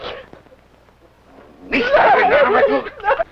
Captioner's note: foreign language